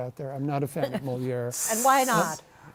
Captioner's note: hisses